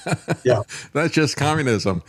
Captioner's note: laughing